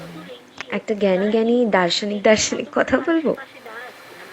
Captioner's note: chuckles